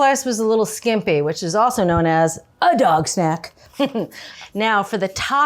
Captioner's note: chuckles